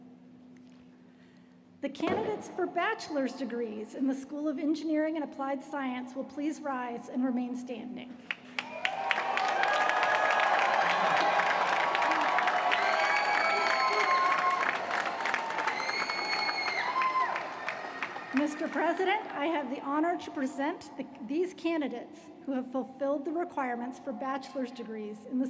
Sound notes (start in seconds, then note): 11.4 cheers & applause